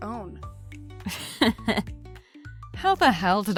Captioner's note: laughs